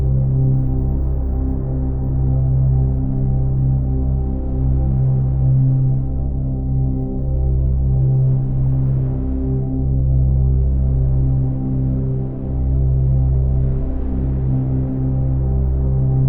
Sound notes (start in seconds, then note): 8.8 gentle calm music continues; 8.8 waves rustling